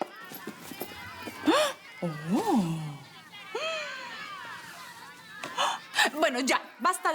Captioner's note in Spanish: Se oye la algarabía